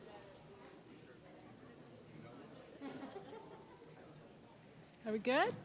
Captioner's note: audience quieting down